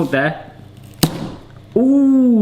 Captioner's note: jar slamming